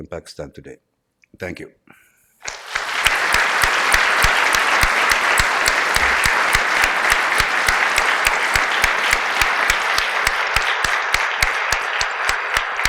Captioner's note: applause